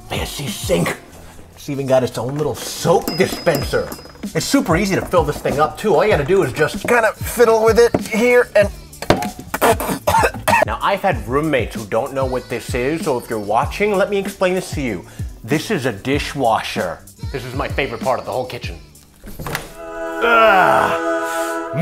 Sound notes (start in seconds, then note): 9.0 thud; 9.5 spitting and coughing; 19.7 angelic choir